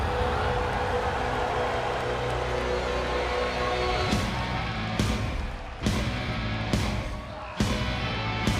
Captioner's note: cheers & applause